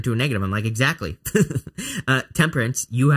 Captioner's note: laughs